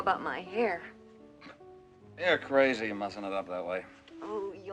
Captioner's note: snorts